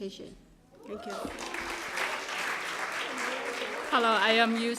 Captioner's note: applause